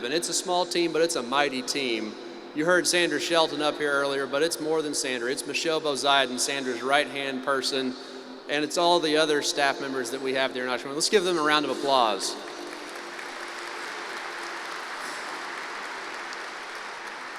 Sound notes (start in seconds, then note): 12.3 applause